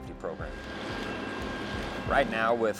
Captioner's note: machine whirs